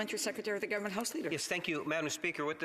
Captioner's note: speaking French